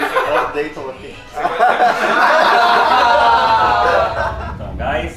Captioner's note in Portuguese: risos